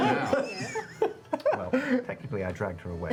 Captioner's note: laughter